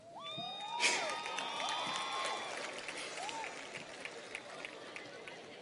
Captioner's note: audience cheers and applauds